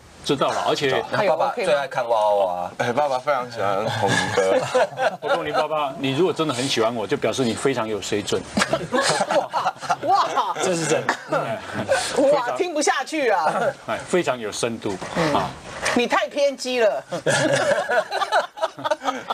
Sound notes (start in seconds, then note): 10.5 cough